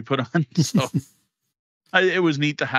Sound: laughs

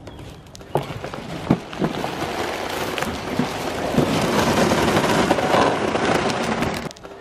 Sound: crunching

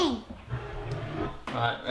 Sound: wood sliding

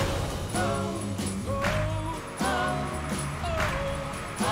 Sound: crowd cheering

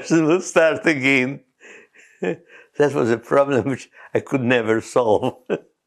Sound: laughs

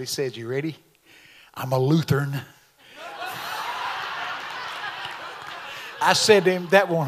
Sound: audience laughs

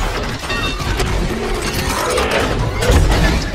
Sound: metal clanking

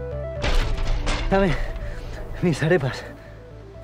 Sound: sighing

